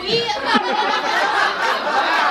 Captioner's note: audience laughing